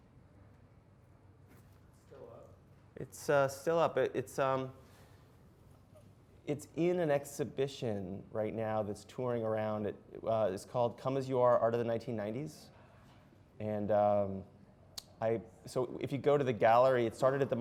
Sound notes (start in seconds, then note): 2.0 voiceover